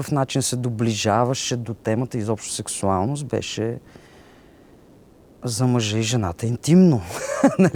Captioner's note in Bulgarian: смее се